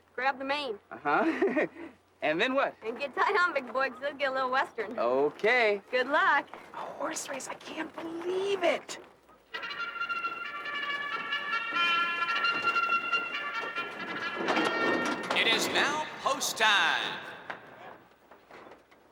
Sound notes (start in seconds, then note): 9.6 horn bleats